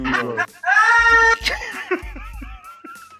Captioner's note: laughs